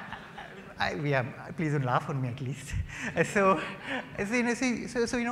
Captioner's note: laughter